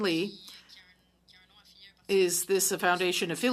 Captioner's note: speaking french